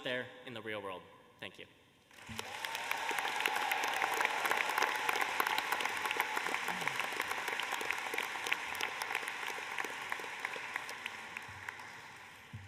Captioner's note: applause